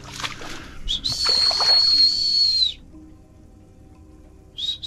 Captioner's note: whistling